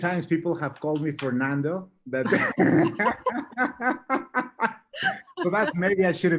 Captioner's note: both laughing